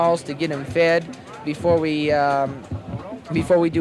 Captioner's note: archival news audio